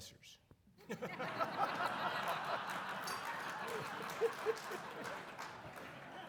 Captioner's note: audience laughing and applauding